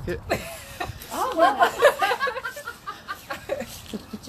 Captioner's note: women laughing